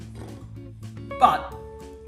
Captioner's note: blowing raspberries